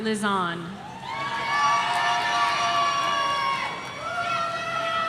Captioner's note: audience cheering